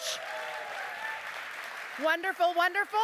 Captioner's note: applause